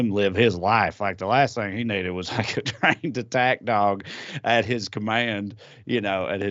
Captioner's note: laugh